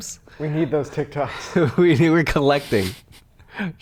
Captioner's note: chuckling